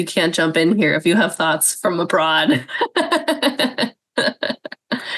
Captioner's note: laughs